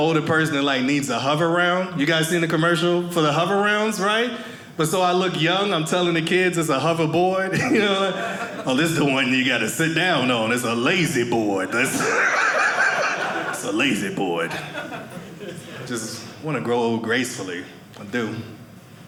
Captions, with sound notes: person that like needs a Hoveround. You guys seen the commercial for the Hoverounds, right? But so I look young. I'm telling the kids it's a hoverboard. (audience laughing) Oh, this the one you got to sit down on. It's a lazy board. (audience laughing) It's a lazy board. I just want to grow old gracefully. I do.